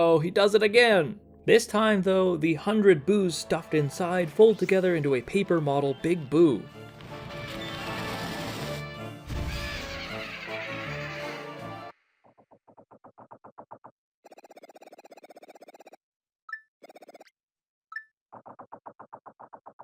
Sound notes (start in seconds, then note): 9.6 laughs; 12.3 silence, Kamek approaches